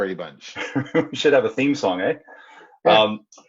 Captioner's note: giggles